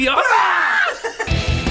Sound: laughs

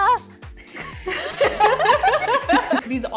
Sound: all laughing

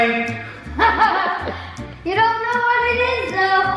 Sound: laughing

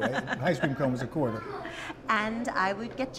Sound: laughter

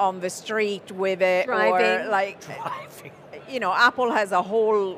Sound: chuckles

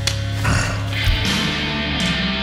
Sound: breath

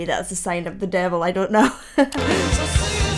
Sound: laughs

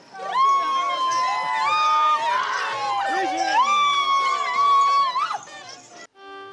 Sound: whooping

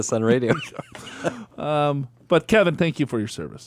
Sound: laughs

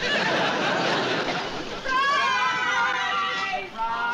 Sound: yelling

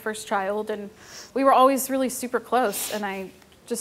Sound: none

